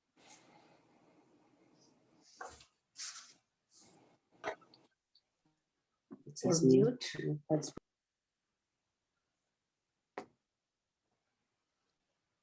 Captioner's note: foreign language